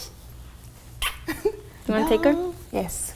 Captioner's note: lips smacking